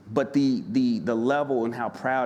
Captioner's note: none